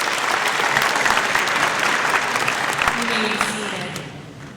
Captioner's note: audience applauds